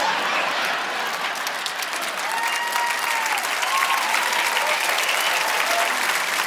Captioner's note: audience laughing; audience applauding